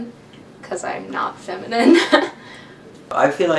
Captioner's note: laughs